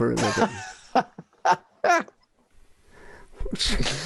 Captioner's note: laughing